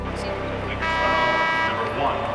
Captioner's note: buzzer